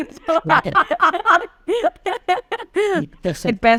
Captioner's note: laughing